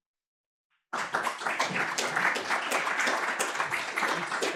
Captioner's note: applause